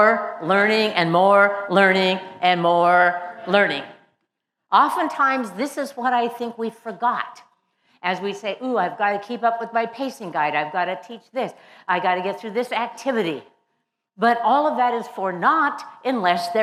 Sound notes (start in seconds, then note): none